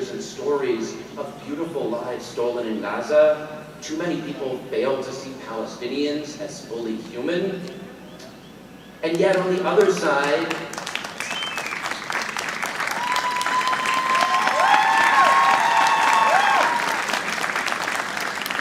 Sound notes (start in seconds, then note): 9.7 audience applauding